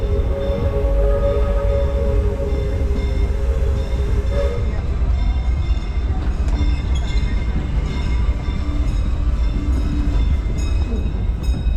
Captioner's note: train whistle blows, railroad crossing bell chimes